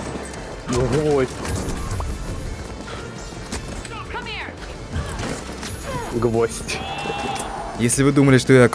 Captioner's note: sound of a popping balloon